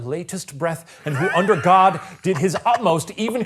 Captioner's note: laughing